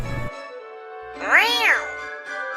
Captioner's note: cat fight meow